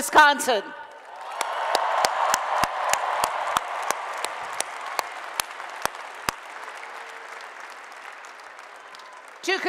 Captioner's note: applause and Cheering